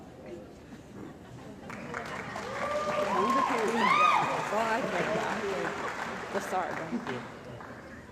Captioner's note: cheering & Applause